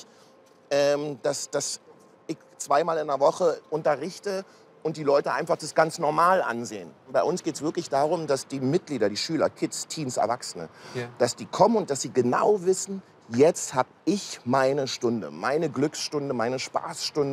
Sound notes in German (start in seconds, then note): none